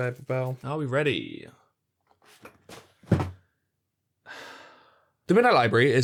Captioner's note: sigh